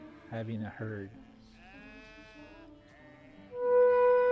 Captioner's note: sheep bleats